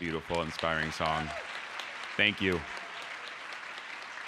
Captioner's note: applause